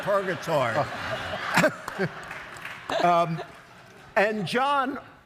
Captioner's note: audience laughs